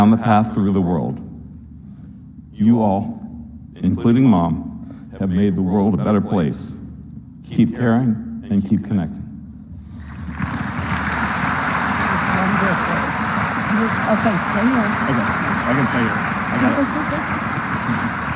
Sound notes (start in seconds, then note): 9.9 applause